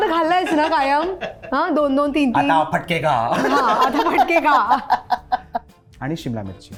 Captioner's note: laughs